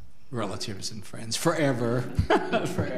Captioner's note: laughs